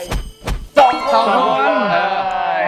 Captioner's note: cheering for both teams